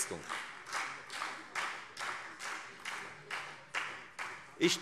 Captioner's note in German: Beifall Freie Demokraten